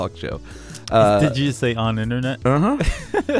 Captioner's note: laughs